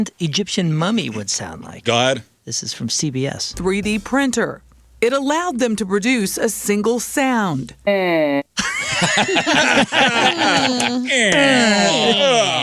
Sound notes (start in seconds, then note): 8.5 laughter